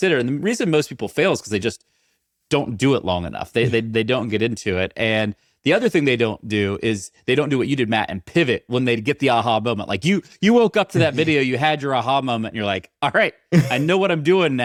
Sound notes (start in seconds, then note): 3.6 chuckling; 13.5 chuckling